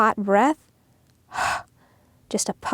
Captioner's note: breathes out